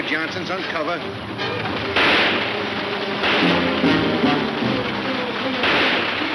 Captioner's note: several gunshots; dramatic music